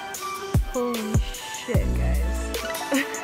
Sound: laughs

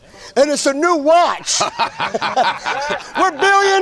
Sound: men laughing

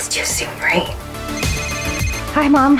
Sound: phone ringing

